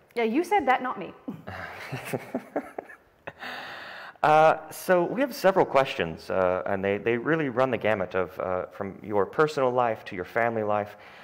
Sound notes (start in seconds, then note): 1.4 chuckles